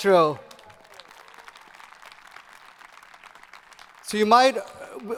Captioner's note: audience applauding